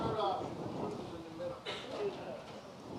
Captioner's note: laughing